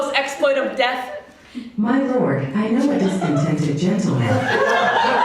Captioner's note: virtual assistant voice